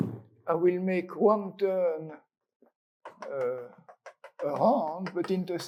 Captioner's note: chalk taps